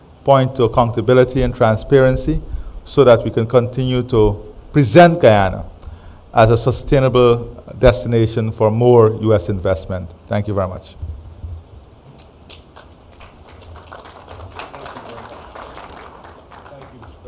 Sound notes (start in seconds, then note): 12.5 applause